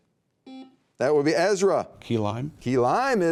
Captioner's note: buzzer beeping